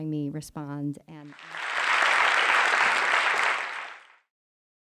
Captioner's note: applause